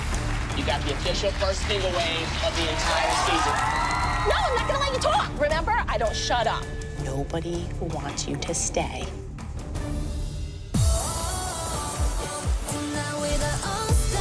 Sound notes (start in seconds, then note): 3.0 cheering